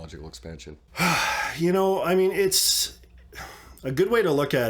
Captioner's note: sighs